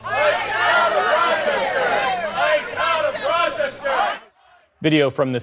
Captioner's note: chanting